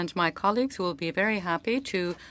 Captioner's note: speaking French